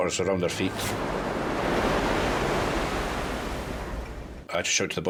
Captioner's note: waves roaring